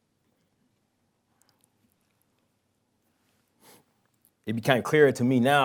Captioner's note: pause